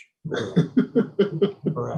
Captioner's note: chuckles